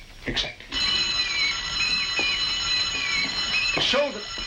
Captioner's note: school bell ringing